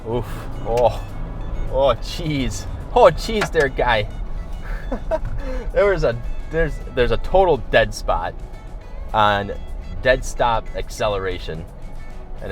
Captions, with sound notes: Ooh, oh geez. Oh geez, there guy. (giggling) There was a, there's a total dead spot, on dead stop acceleration.